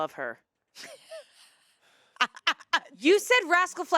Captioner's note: laughs